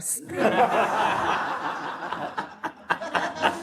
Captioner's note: audience laughs